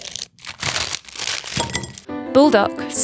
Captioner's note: packaging crinkling